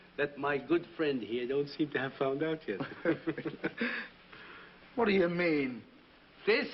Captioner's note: chuckles